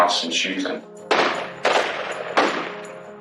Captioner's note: gununshotots